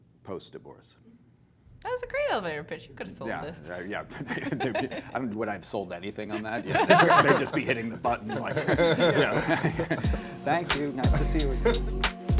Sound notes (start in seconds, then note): 9.1 Adam and host laughing